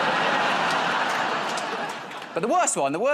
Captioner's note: laughter